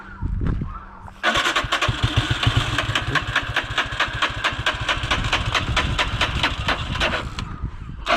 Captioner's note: engine trying to start